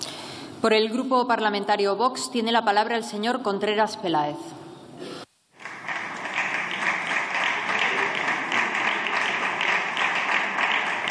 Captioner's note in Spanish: Aplausos